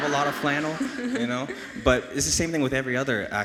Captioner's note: audience laughs